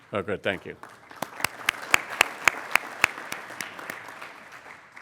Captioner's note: applauding